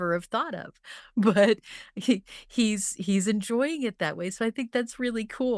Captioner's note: chuckles